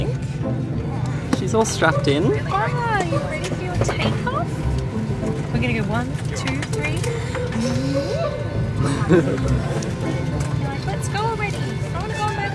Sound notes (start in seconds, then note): 7.7 airplane noises; 8.8 chuckles